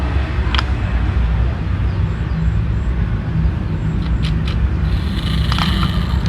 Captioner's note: sounds from the car